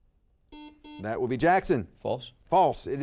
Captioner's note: buzzer beeps